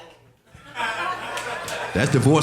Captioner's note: audience laughing